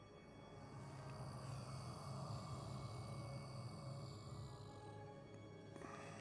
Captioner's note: creepy moan